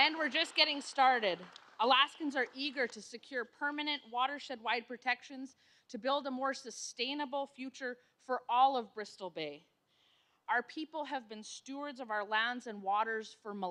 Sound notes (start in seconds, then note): 4.4 applause